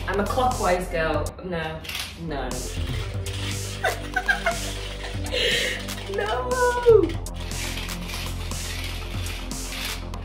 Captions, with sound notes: I'm a clockwise girl. No, no. (laughing) - No.